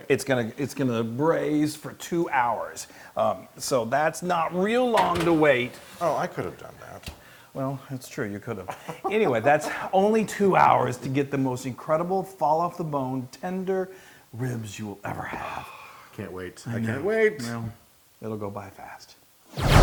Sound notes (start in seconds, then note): 8.6 laugh